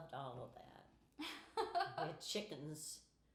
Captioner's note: laughing